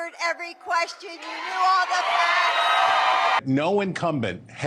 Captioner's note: audience cheers